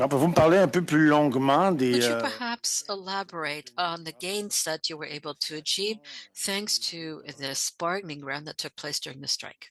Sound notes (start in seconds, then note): 6.1 speaking French